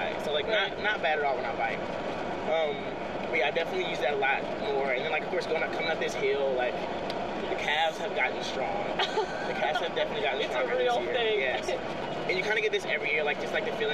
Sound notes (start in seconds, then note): 9.0 laughs